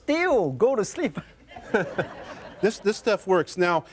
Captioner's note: laughter